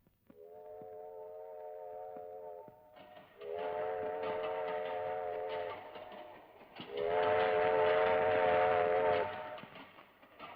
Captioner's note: train horn blares